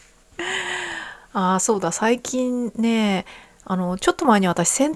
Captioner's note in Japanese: 息をのむ音